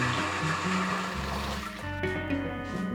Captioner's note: processor stops